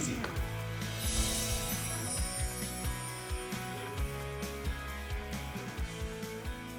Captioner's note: uplifting pop music; chimes tinkling